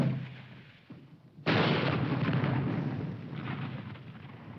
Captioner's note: bomb exploding